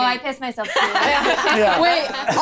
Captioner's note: all laughing